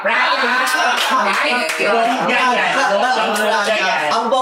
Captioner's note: laughing, chattering